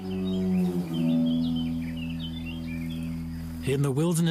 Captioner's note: birds chirping